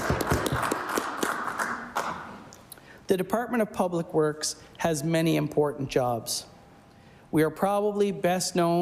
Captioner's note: applause